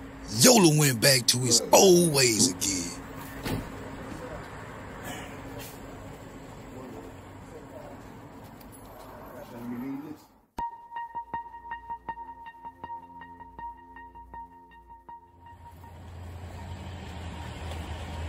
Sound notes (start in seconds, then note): 3.2 door slam; 6.1 car noise from the road; 10.4 tense music